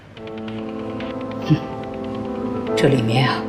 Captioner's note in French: Humph